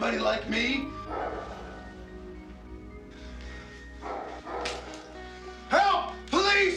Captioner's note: eerie music; dog barking